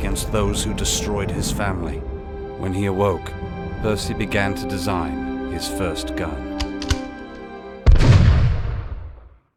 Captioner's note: gunshot